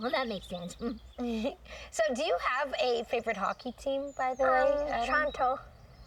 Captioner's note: chuckling